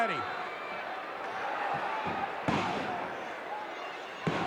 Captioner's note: audience cheering